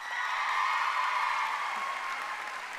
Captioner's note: cheering and applause